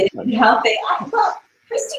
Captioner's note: laughs